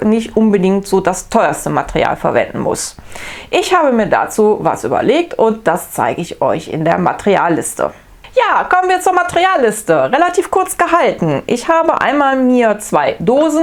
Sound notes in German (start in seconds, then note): none